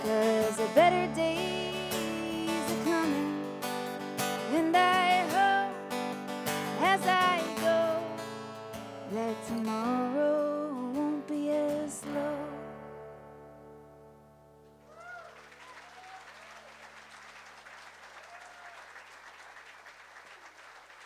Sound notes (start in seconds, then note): 14.8 audience applauds